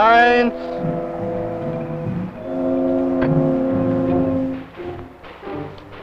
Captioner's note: speaking in foreign language